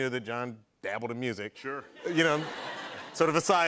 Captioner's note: laughter